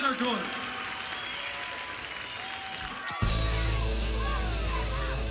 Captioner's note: crowd cheering